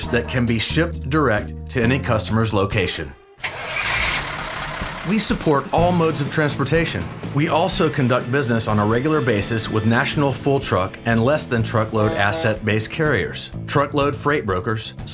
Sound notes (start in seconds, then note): 3.4 engine starting